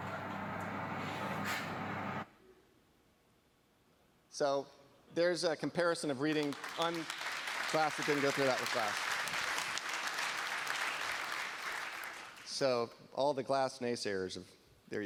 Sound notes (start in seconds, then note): 0.0 beeping; 0.0 scraping; 12.1 applause